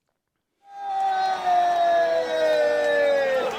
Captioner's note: crowd cheers, then boos